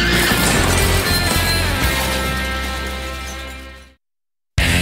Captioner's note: tires screeching